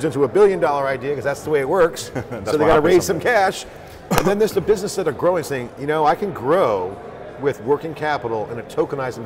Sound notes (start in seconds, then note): 2.1 laughs